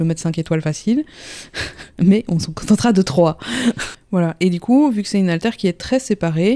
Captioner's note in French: rire